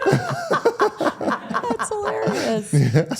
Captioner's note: participants laugh